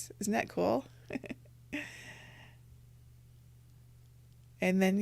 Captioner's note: laughs